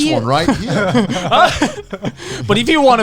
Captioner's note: all laughing